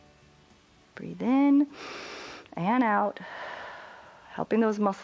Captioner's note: exhales; inhales